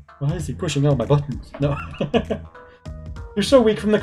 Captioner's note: laughs